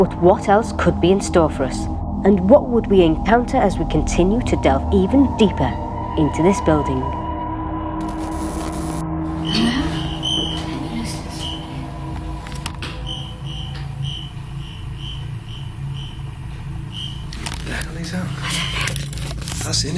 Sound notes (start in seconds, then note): 9.3 metre beeping